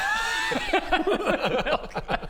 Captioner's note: demanding laughter